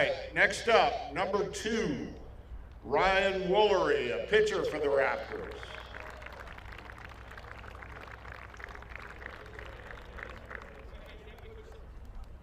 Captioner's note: applause